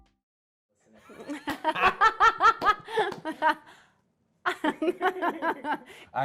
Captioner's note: laughing